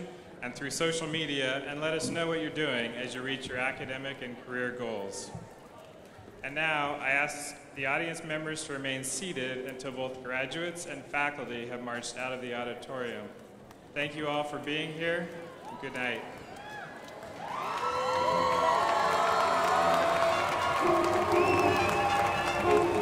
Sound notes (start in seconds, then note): 15.5 crowd applauding; 20.5 upbeat music